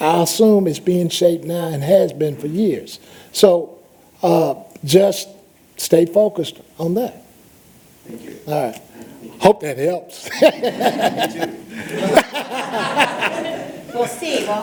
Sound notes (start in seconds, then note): 10.2 laughter